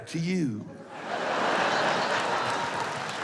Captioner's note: laughter